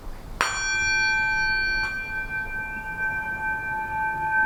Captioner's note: singing bowl chimes